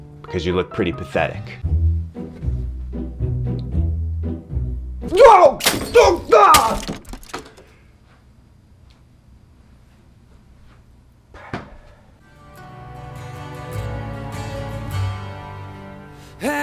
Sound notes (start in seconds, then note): 2.2 plucky orchestral music; 5.2 Frank shouting; 5.2 liquid splashing